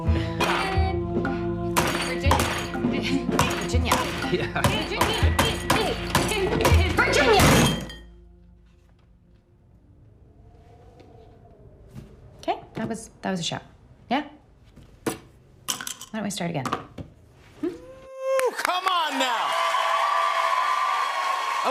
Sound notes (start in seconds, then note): 7.2 hand slams; 18.2 cheers and applause